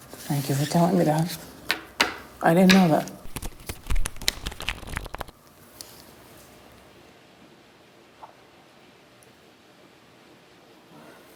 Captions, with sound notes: Thank you for telling me that. I didn't know that. (cards landing)